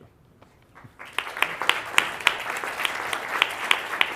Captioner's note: audience clapping